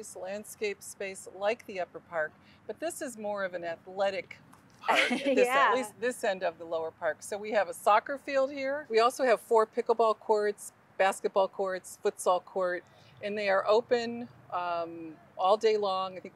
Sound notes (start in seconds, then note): 4.9 chuckling